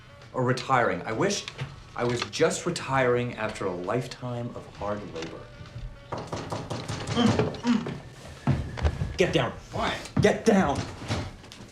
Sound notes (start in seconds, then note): 6.0 knock on door